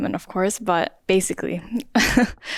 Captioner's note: chuckles